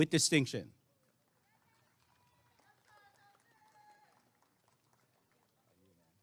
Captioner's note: applause and cheering